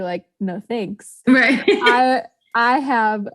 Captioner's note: laughs